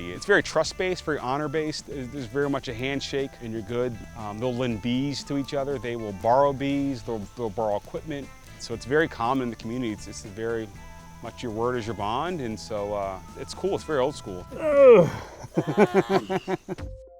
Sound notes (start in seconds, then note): 14.4 groans; 14.5 laughs; 15.5 upbeat pop music